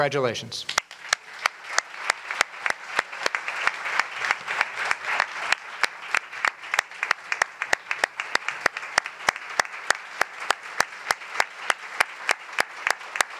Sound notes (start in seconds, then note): 0.6 applause